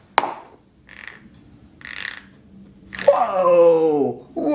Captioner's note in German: Becher klopft auf den Tisch; knirscht mit den Zähnen